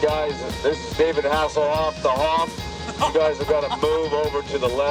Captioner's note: engine whirring